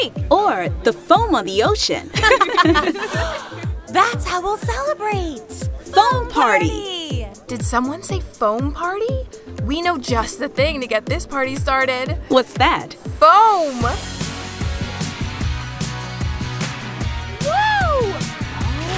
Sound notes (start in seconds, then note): 2.2 all laughs; 3.0 gasps; 14.5 upbeat music